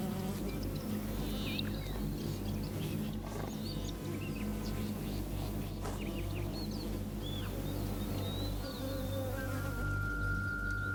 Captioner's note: flies buzzing